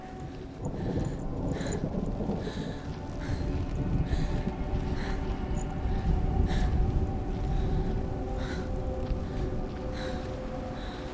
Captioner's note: panting